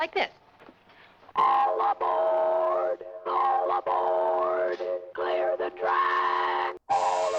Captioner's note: dlSTORTlNG ELECTRONlCALLY